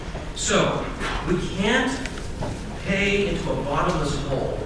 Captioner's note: none